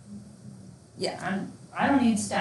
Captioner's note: student speaks faintly